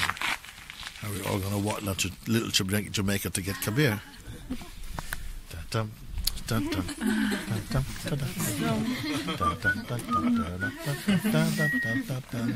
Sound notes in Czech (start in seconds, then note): 8.6 smích; 9.6 hvízdání